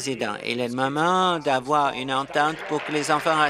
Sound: applause

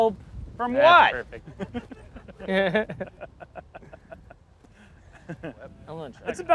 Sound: laughter

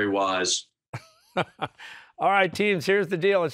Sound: laughs

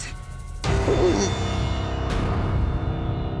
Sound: whimpers

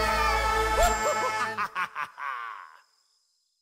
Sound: laughter

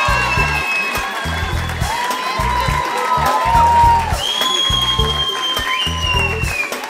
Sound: applause

